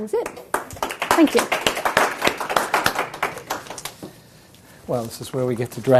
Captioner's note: applause